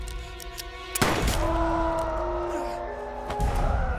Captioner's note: gun shooting